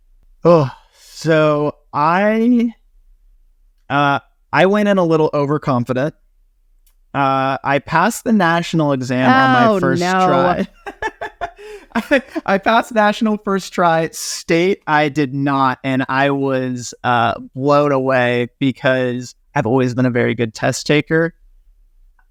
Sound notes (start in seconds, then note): 9.2 laughing